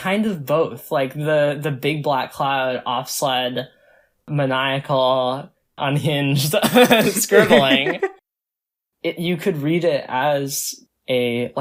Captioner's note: both laugh